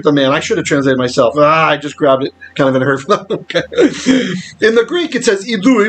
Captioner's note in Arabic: تضحك